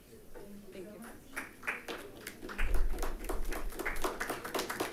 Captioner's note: group applauding